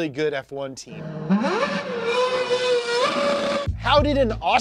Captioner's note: F1 Engine revving